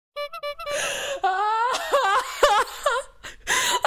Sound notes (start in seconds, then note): 0.0 clown horn; 0.2 sobbing